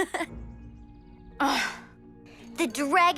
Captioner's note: Mischa laughs; Jessa growls